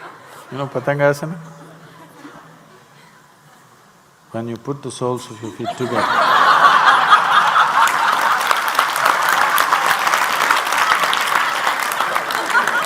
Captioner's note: laughter/Applause